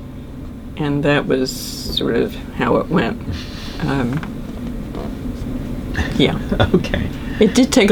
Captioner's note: laughs